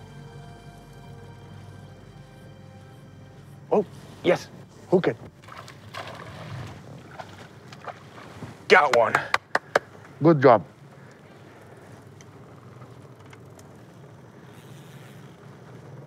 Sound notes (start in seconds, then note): 8.8 clapping